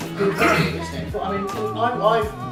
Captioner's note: coughs